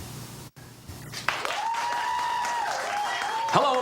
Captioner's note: audience applauds